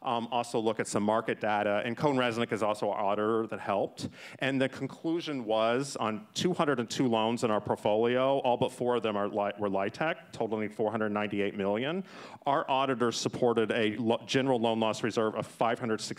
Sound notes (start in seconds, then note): none